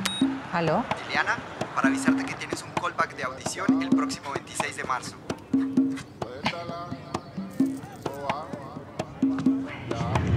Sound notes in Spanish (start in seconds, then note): 1.0 voz de hombre